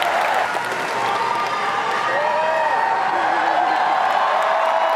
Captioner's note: crowd cheers